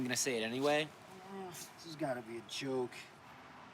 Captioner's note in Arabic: آهات